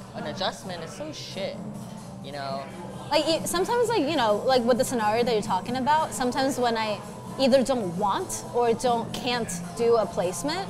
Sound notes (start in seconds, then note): none